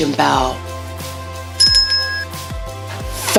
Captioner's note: bell ding